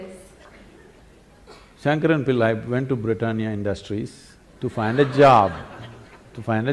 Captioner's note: laughter